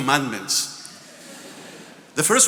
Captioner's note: attendees laughing